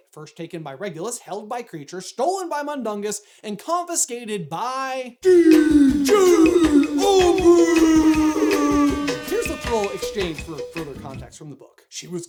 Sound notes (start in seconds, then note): 5.2 sick beat; 8.8 air horn